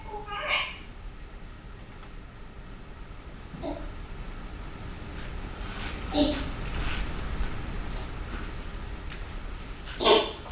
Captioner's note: baby gently babbles